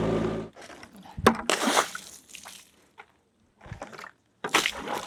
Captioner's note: water splashes